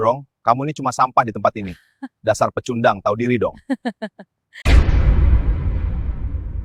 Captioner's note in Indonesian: tertawa